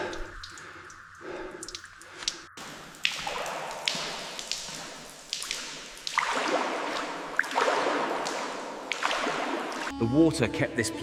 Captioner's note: water splashing